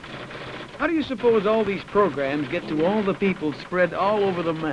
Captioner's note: typewriter clicks and clacks